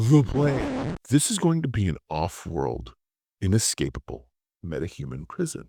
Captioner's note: record scratch